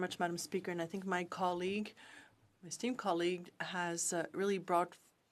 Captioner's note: speaking in French